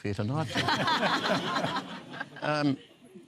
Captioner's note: laughter